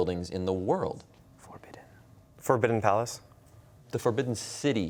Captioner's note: whispering